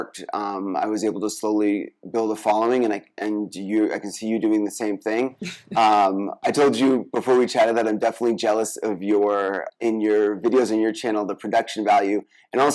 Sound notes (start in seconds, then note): 5.4 laughs